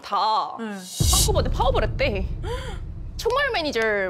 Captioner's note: shocking sound effect